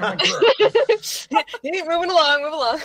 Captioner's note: laughter